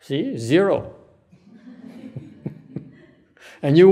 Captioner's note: laugh